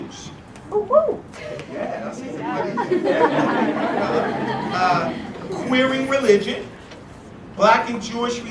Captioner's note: laugh